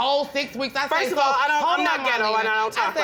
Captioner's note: arguing